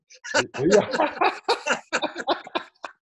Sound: laughs

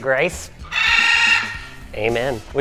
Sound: squawking

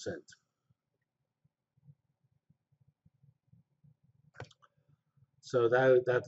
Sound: pause

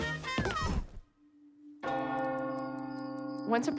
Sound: bell tolling

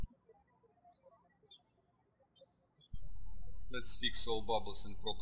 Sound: birds chirping

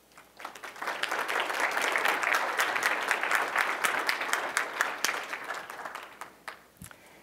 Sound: applause

